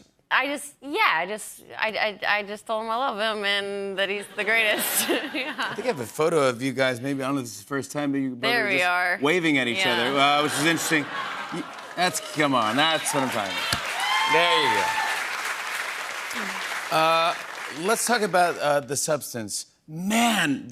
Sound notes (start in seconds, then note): 10.0 laughter; 15.3 cheers and applause